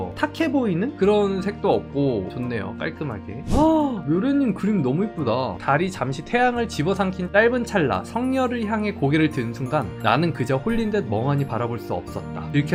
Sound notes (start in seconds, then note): 5.5 voiceover